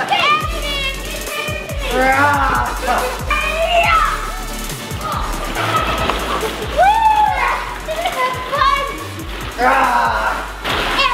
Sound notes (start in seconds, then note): 0.1 laughing; 1.9 growling; 2.6 laughing